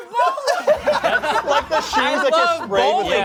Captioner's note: everyone laughs